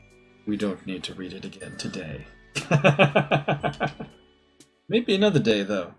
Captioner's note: laughs